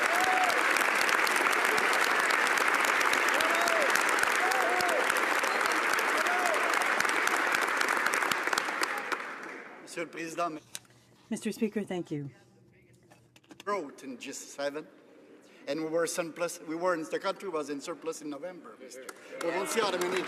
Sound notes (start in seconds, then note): 4.3 some Applause